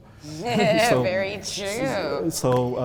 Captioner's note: laughter